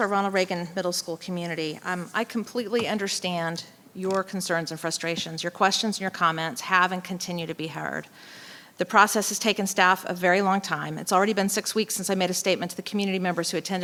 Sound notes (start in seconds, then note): none